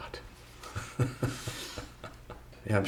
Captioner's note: braga chuckles